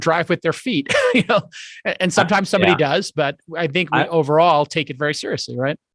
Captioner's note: chuckles